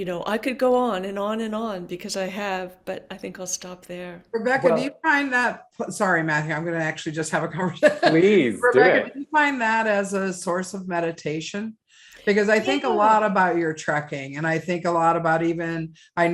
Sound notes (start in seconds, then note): 7.8 laughing